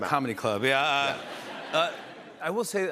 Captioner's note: laughter